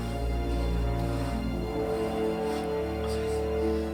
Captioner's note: blowing on embers